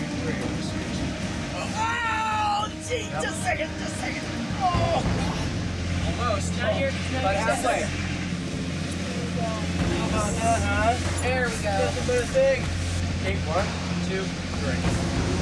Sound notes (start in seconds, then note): 1.7 yelling; 4.9 dramatic music